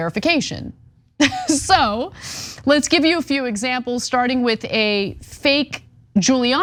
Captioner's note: laugh